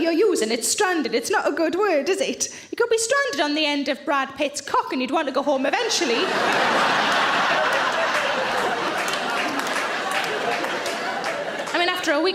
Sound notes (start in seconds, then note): 5.9 audience laughing; 6.2 audience applauding